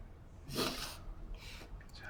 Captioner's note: sniffing